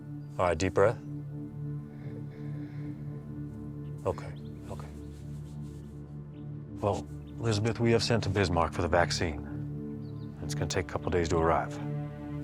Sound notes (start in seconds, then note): 1.6 breathing in